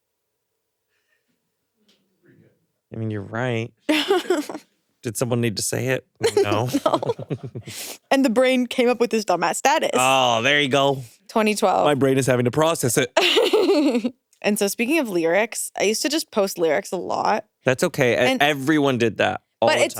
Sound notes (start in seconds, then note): 3.9 chuckles; 6.2 chuckle; 13.2 chuckles